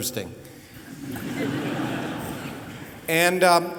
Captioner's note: laughter